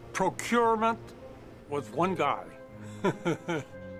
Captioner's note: laughs